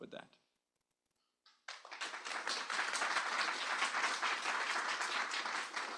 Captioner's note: applause